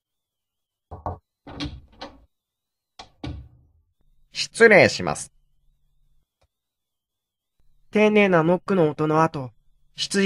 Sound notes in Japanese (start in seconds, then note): 0.6 ノック音：コンコン; 0.6 扉の開く音：ガッチャン; 3.2 扉の閉じる音：バタン